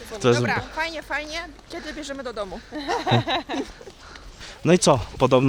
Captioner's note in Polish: laughs